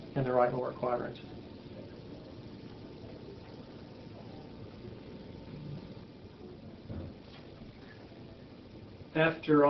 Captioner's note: silence